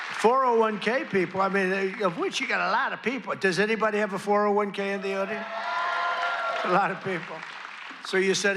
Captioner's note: applause